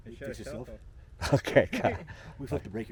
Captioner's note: laughing